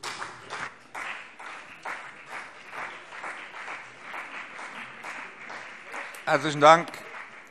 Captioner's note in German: Beifall BÜNDNIS 90/DIE GRÜNEN und CDU